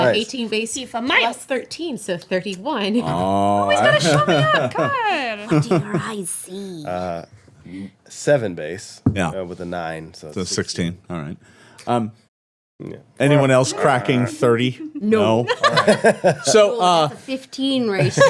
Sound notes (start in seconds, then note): 3.0 laughing; 15.9 laughing